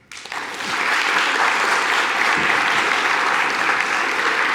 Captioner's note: audience applauds